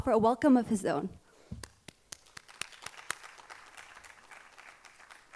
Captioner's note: audience applauding